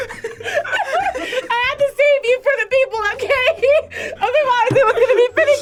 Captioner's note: laughs